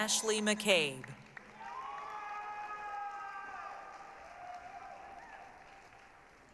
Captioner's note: applause, cheering